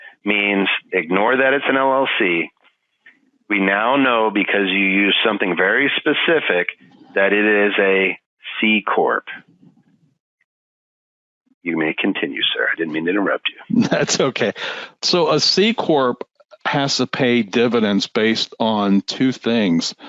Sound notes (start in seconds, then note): 12.7 laughing